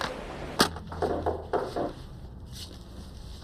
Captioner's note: knocking at door